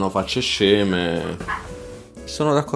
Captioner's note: chirping